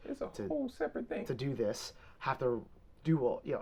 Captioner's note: none